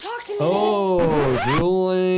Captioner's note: record scratching